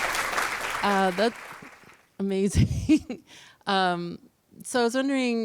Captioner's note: applause; laughter